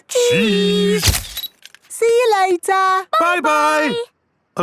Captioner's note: camera click